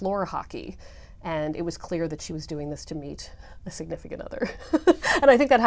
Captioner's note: laugh